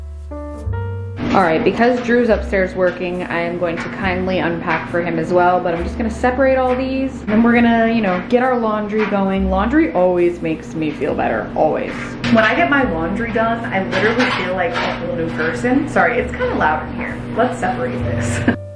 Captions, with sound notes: All right, because Drew's upstairs working, I am going to kindly unpack for him as well, but I'm just gonna separate all these. Then we're gonna, you know, get our laundry going. Laundry always makes me feel better, always. When I get my laundry done, I literally feel like a whole new person. (washer thuds) Sorry, it's kinda loud in here. Let's separate this.